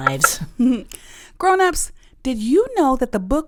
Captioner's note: chopping sound